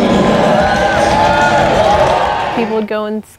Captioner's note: cheering